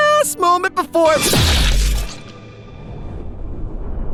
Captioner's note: squish